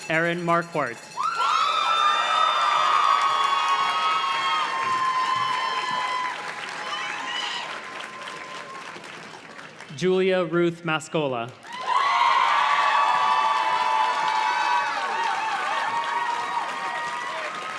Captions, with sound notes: Aaron Marquardt. (audience cheers and claps) Julia Ruth Mascola. (audience cheers and claps)